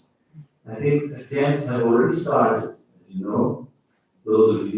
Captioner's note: faintly speaking